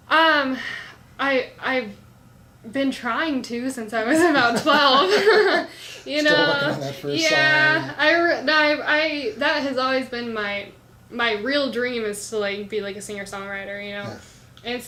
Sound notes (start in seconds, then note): 4.2 laughs